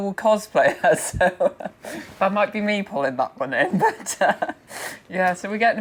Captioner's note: laughing